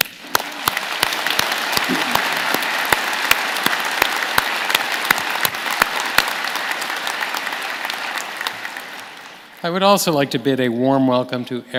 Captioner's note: applause